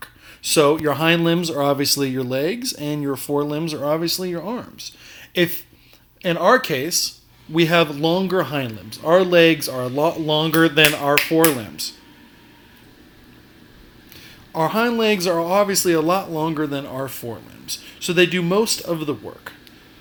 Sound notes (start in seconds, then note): 10.8 snaps fingers